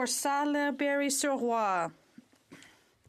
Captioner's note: speaking French